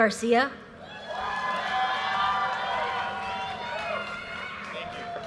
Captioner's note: audience cheers and applause